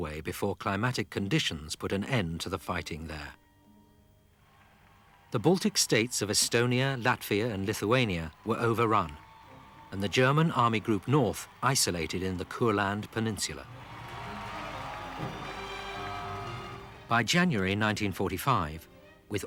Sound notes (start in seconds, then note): 14.7 crowd cheering; 14.7 rousing music